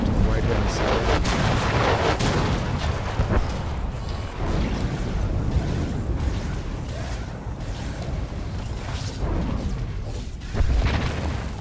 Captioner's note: explosion